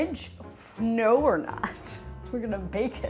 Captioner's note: chuckles